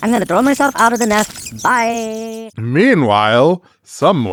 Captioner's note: dragons hiss, fight; screams and falls away